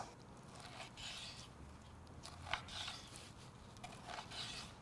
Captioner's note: knife slicing